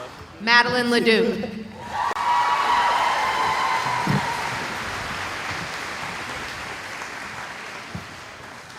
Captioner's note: cheering